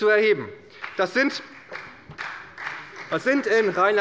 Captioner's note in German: Beifall bei der SPD